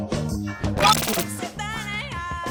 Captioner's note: crackling